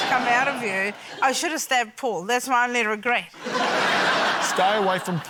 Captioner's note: laughter